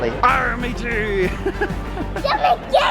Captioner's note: chuckles; laughing